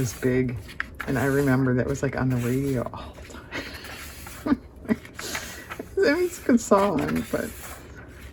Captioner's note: laughs